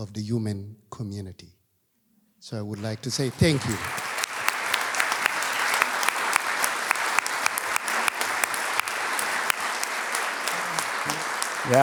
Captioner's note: applause